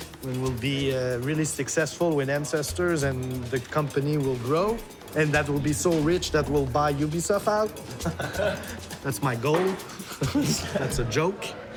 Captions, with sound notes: when we'll be really successful with Ancestors and the company will grow and that'll be so rich that we'll buy Ubisoft out. [LAUGHTER] That's my goal. That's a joke.